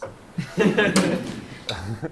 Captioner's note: laughter